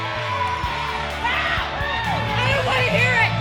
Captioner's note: crowd cheering maniacally; frustrated screams